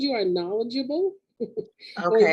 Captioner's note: laughing